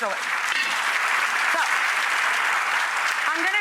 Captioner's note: applause